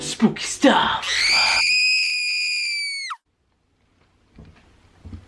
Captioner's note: woman screaming